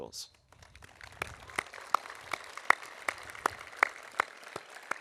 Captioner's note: audience applauding